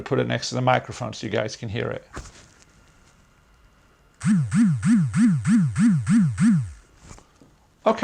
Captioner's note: pulsating vibration